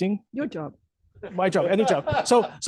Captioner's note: laughter